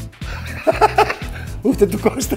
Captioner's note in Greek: γελάει